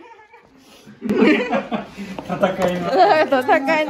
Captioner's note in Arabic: يضحك